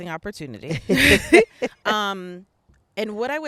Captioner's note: both laughing